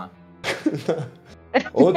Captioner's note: laughter